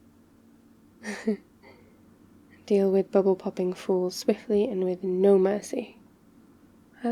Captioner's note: laughs